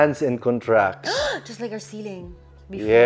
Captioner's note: gasps